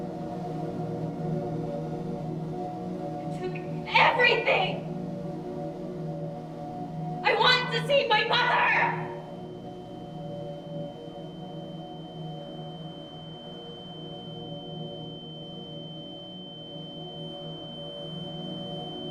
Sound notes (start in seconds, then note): 9.2 high-pitch ringing; 9.2 soft dramatic music